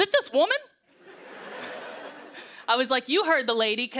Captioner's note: laughter